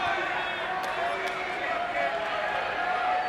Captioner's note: applause